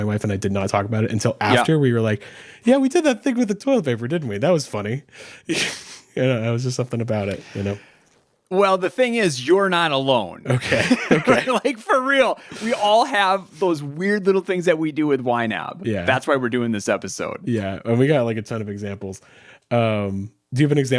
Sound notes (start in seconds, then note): 5.8 chuckles; 10.6 both chuckling